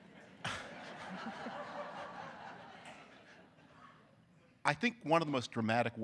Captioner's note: audience laughing